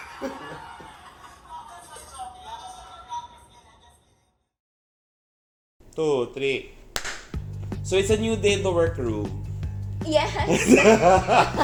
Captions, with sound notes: 2, 3 (clap!) So it's a new day at the werqroom lol